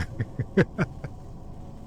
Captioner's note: laughs